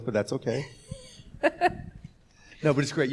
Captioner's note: laughing